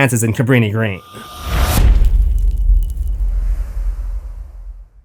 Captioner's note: impact